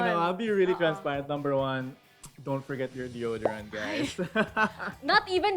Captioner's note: laughs